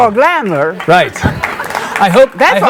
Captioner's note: audience clapping